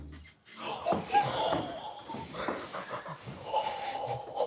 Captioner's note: group gasping